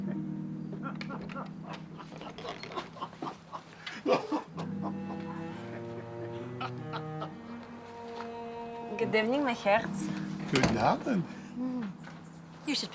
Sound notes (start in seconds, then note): 0.2 man laughing; 9.4 speaks foreign language